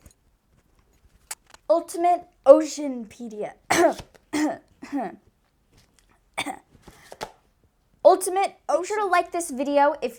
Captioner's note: cough; wheeze; ahem